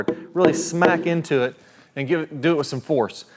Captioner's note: hammer tapping